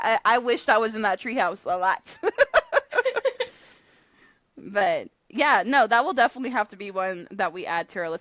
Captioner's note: laughter